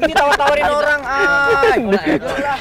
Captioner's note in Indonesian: ketawa